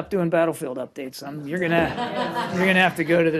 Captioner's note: laughter